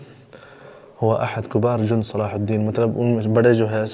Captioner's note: Arabic